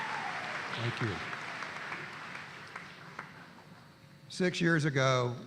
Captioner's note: applause